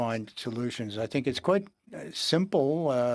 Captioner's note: speaking in French